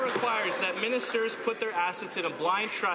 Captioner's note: some Applause